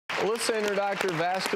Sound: audience applauding

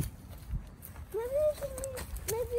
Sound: wind blows

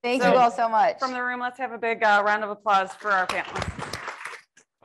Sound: applause

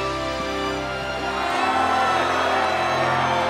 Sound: cheering

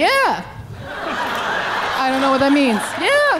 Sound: audience laughing

